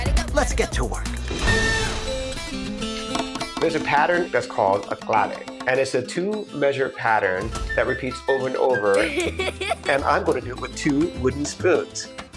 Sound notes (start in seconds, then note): 8.9 laughs